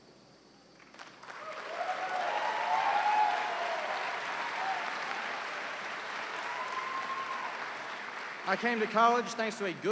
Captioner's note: cheers and applause